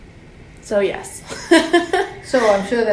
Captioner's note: laughs